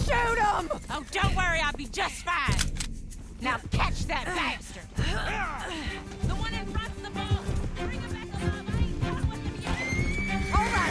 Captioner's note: cocks a rifle